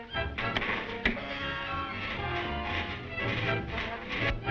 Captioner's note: dramatic music; electricity buzzing